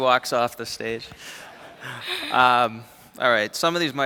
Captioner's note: laughter